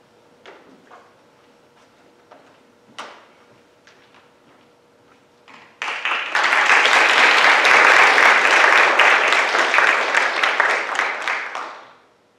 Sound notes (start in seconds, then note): 5.6 audience clapping